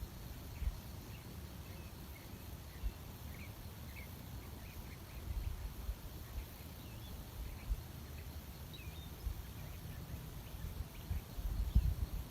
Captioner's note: birdsong in background